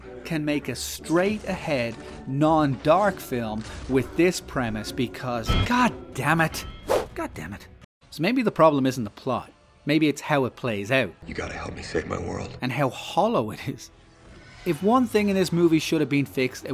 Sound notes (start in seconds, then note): 5.3 clang; 6.9 whoosh